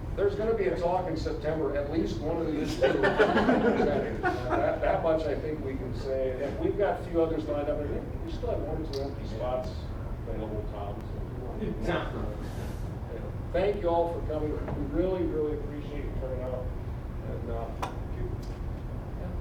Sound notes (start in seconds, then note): 2.6 audience laughing